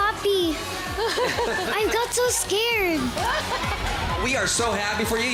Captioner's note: giggles